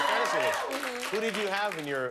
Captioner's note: cheers and applause